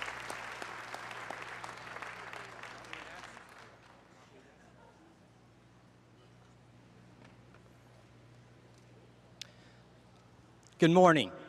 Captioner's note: applause